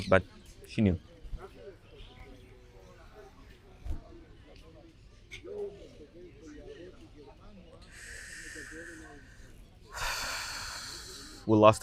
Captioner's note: pauses 10 seconds